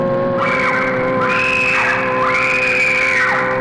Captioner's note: screaming